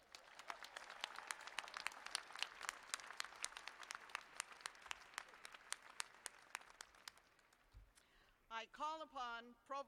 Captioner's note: cheers and applause